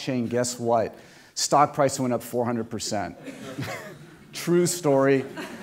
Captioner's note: laughter